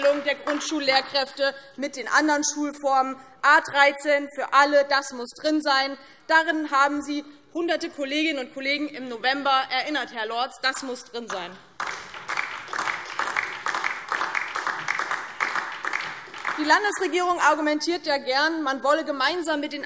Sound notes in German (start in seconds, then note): 11.6 Beifall DIE LINKE